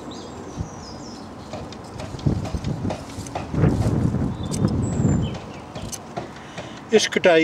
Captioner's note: noise of wind